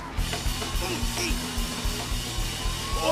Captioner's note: groaning